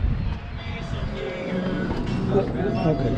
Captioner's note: crescendo of mini-mart sounds